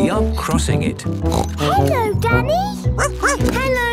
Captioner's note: snorts; barks